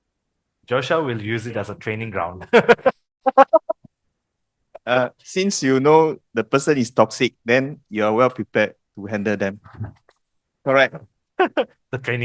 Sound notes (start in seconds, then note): 2.4 laughters